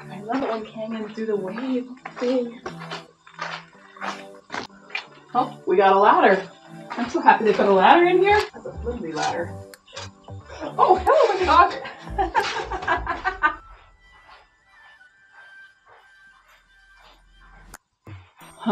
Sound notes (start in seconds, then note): 10.6 laughing from being scared by a dog